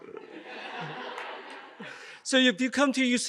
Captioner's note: audience laughs